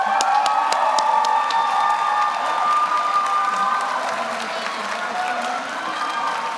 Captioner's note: audience applauds; audience cheers